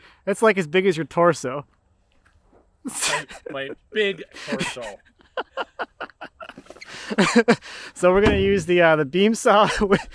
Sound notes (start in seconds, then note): 4.9 laughing